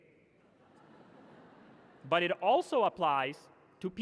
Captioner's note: laughter